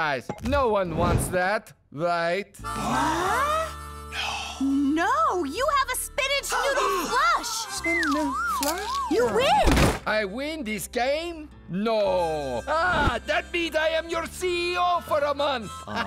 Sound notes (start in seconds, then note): 4.1 gasp; 15.8 laughs